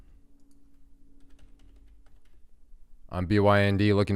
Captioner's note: keyboard clicking